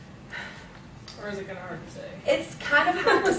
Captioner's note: chuckling